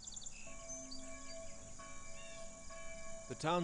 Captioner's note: birds and distant bells